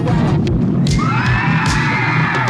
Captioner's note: screaming